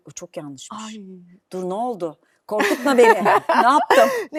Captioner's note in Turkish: kahkaha